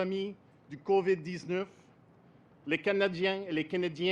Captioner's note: speaks French